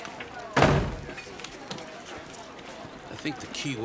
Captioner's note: door slamming